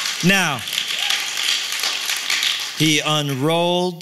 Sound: applause

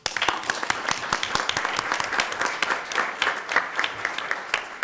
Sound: audience applauding

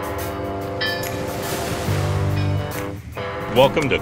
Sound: waves splashes

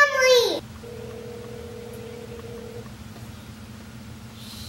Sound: phone rings

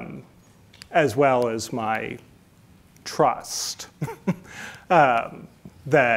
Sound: chuckles

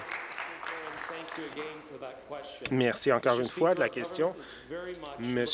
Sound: applause

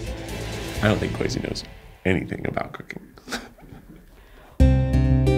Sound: laughs; suspenseful music

